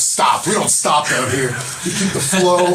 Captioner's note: laugh